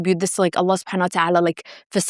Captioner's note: speaking foreign language